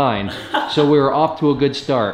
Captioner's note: laughing